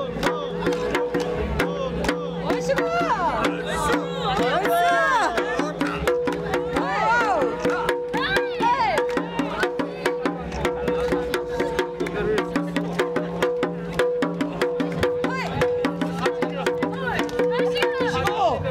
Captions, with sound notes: [woman shouts] Hurrah! Whoa, hey!